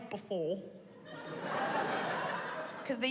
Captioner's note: laughter